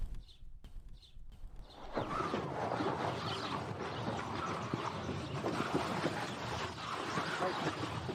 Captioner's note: bag dragging